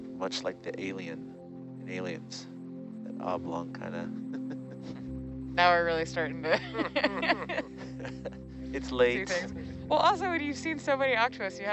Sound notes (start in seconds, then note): 6.4 chuckles